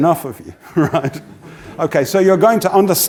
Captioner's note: laugh